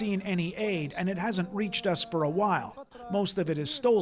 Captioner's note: speaking alternate language